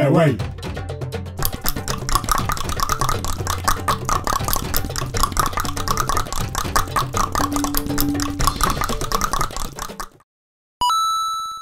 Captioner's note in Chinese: 大量彈舌